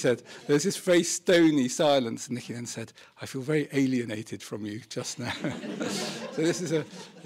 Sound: laughter

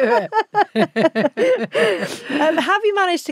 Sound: both laughing

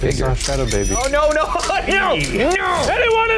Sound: laughs

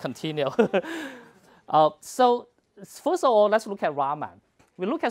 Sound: laugh

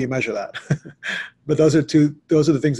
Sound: laughs

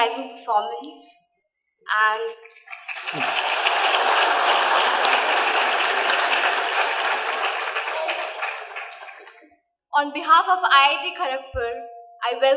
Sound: applause

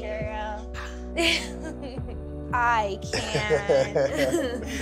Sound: giggles

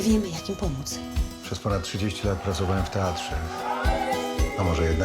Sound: people cheering

